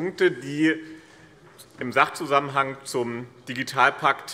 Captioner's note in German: none